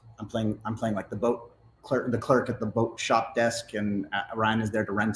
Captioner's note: none